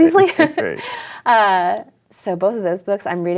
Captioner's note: laughter